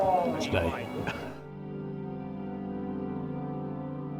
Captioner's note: laughs